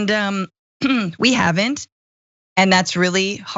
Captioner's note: cough